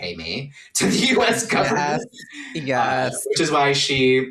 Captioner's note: laughing